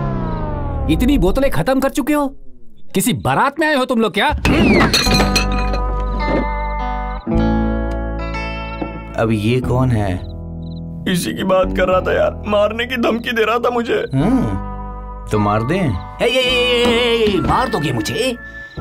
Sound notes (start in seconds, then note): 4.4 glass shatterring